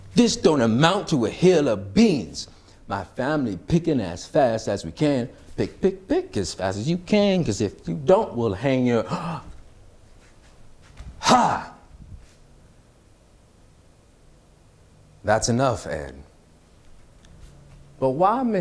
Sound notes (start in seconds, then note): 9.2 gasp